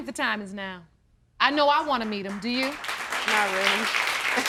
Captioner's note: audience applauding